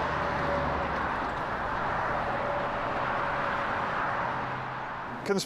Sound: traffic rumbles

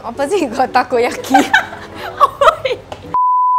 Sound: laughs

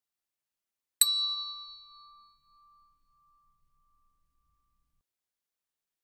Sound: sound hand bell

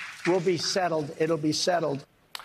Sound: applause

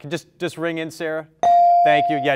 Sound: bell rings

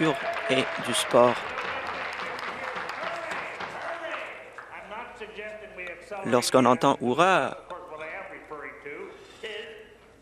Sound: applause

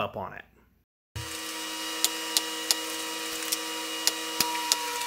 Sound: machinery noises

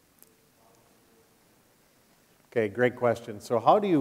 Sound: speaking quietly

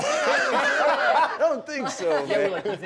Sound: laughter

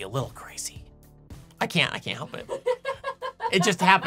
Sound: laughing

